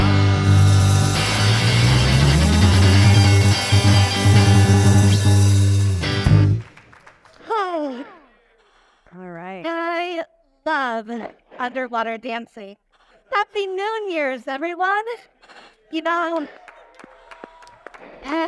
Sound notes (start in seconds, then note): 0.0 mellow rock music continues; 6.0 audience applauding; 16.5 audience applauding and cheering